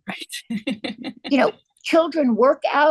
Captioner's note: laughs